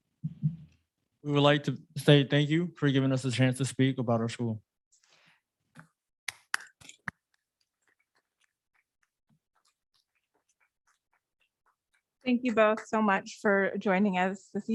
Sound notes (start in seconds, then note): 6.0 audience clapping